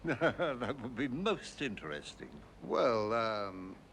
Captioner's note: chuckling